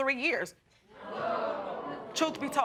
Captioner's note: audience exclaiming